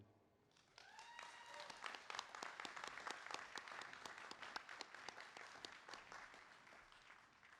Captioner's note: applause